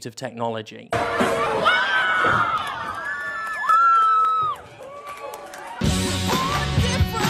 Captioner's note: Crowd Cheers as Chair Hits Commander Sterling